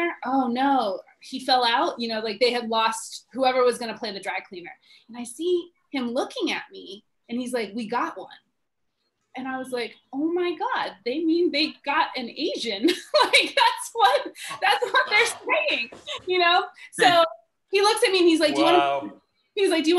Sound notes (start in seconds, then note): 14.1 laughs